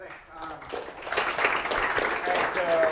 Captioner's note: applause